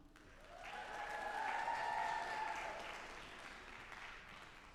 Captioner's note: audience applauding